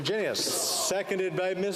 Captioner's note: speaking French